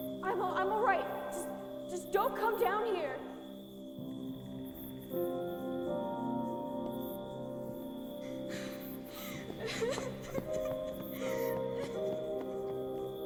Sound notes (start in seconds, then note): 4.3 somber music continues; 9.2 person crying